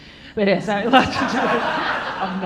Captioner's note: all laughing